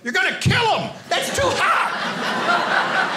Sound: audience laughing

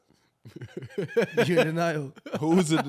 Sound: laughing

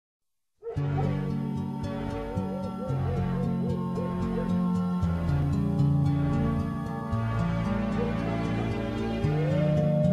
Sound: dogs bark in the distance

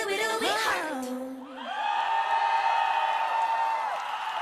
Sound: screams and Applause

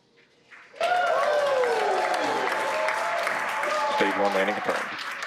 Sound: crowd applause

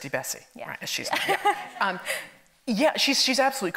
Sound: laughs

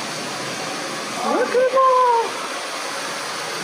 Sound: exclaims

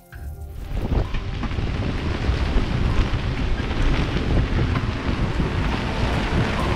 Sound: wind whooshing

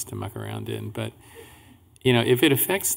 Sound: laughing

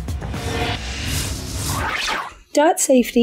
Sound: metal whooshing

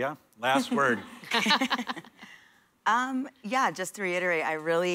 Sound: laughter

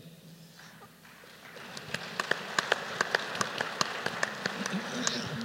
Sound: applause

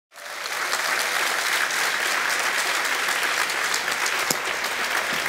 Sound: audience members clapping

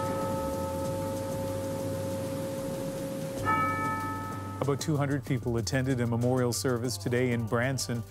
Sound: bells tolling

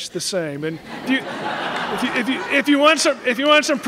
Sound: laughter

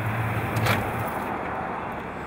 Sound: truck turning off

